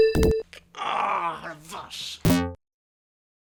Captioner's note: dying in french